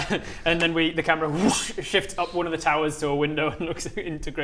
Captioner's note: whoosh